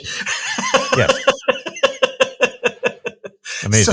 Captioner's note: laughing